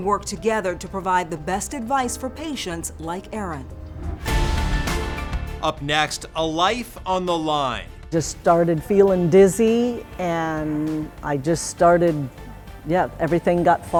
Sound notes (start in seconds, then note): 3.8 graphics whooshing; 4.8 exciting music